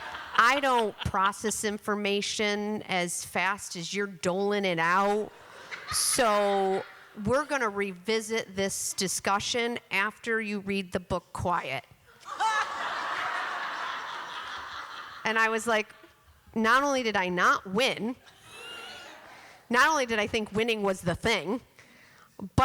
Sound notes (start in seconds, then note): 12.2 laughter